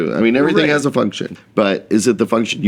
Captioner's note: laughing